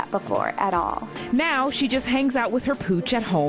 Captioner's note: voiceover